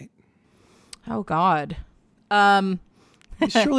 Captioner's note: chuckles